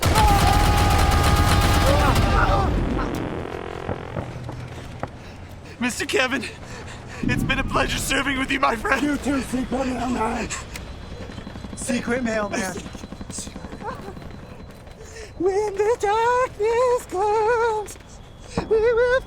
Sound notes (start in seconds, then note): 0.0 screaming; 1.3 explosion; 13.6 whimpers; 15.1 singing